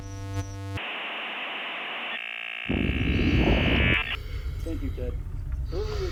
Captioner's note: staticky modem humming